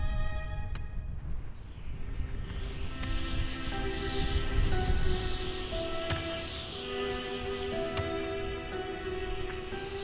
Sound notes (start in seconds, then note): 2.2 somber music; 2.2 wind whistling